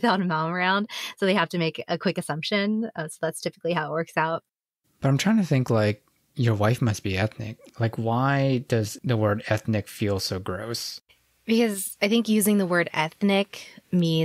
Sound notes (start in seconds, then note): none